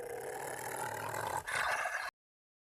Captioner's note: snarling